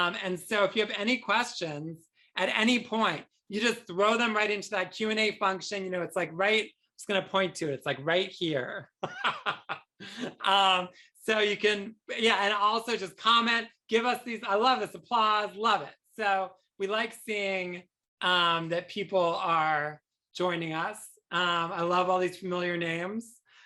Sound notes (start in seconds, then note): 9.0 chuckles